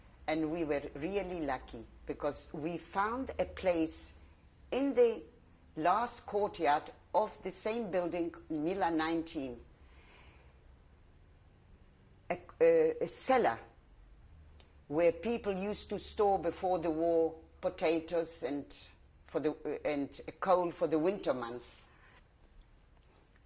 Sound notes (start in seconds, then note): 9.1 pauses for 3 seconds